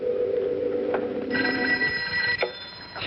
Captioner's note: telephone